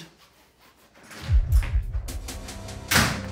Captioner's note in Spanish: puerta se abre y cierra